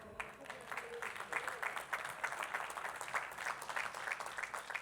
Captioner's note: attendees clapping